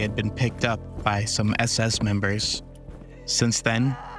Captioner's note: woman crying in anguish